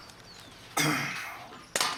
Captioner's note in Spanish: carraspea